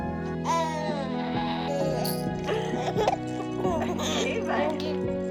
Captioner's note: baby cooing; baby laughing